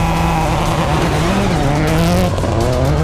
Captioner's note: car revs